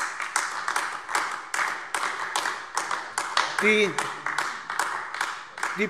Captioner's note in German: Beifall AfD